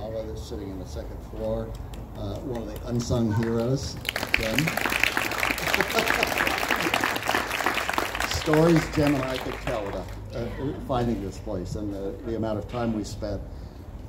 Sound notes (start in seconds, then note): 5.1 crowd claps, chuckles